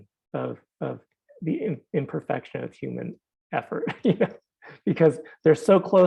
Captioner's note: laughing